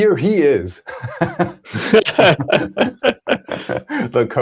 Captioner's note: laughter